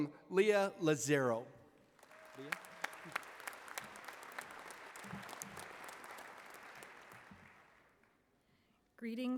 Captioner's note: applause